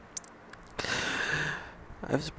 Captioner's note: pained breaths